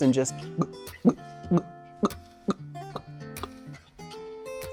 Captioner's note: mimicking gulping